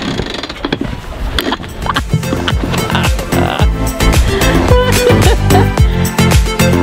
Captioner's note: bellylaugh